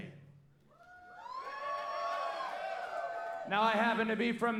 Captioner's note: audience cheering